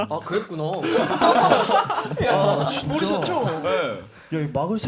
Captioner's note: tertawa